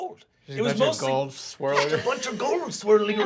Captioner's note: laughing